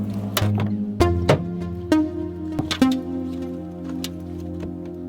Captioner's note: car door bangs